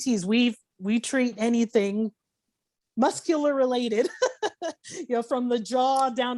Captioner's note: laughing